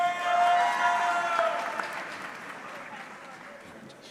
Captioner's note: audience clapping